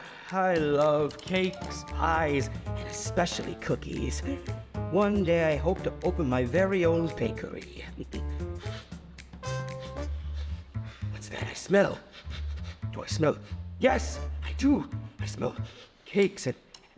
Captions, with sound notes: - I love cakes, pies, and especially cookies. One day I hope to open my very own bakery. (upbeat music) What's that I smell? (sniffs) Do I smell... Yes I do, I smell cakes